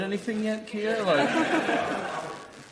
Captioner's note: audience laughs